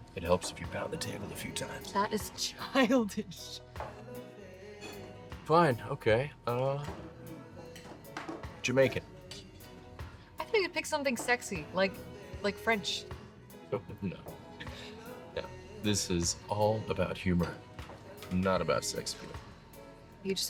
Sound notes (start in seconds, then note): 4.4 laughs; 14.7 laughs